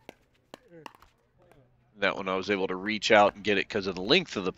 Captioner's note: ball bouncing